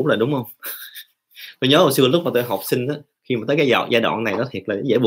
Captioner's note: chuckles